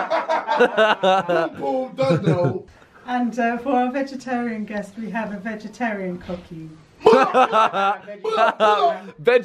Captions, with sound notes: (laughing) Pum pum, ya don't know. - And for our vegetarian guest, we have a vegetarian cookie. - Bwo bwo, bwo bwo. - Ha haa,